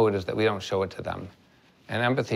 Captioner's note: none